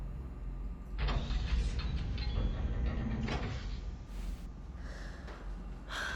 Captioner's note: metal bolt turning